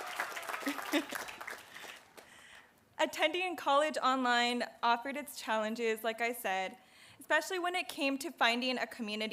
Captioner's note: applause